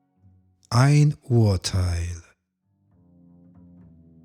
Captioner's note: german